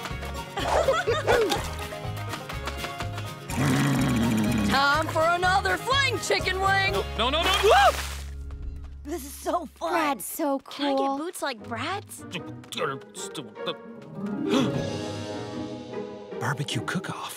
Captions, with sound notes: - [laughs] - Whoo-hoo! - [growling] - Time for another fling, chicken wing. - No, no, no! Ah! - This is so fun. - Brad's so cool. - Can I get boots like Brad's? - [grumbling] [gasps] Barbecue cookoff.